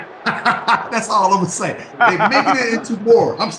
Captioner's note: laughs